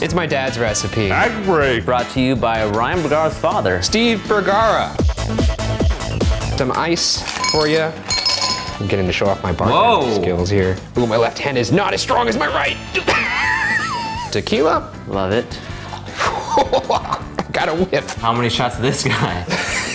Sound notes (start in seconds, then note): 4.9 upbeat music; 13.0 laughs maniacally